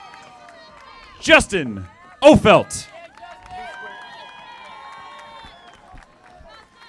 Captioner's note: audience applauding